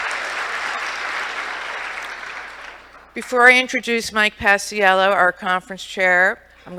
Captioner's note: applause